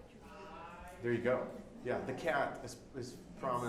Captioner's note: faint speaking off mic